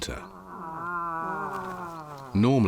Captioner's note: moose grunting